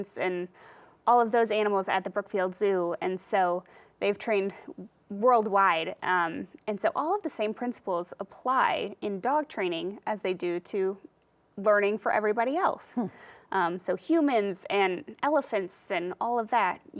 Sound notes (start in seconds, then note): none